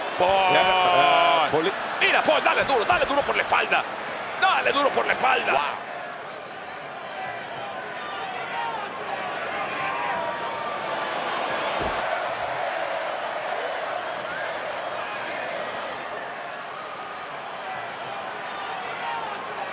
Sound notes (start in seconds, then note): 5.9 applause